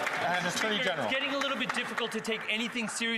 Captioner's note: some Applause